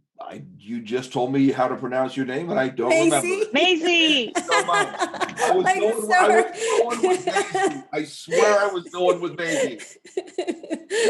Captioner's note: laughs